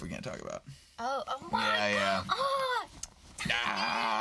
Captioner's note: exclaims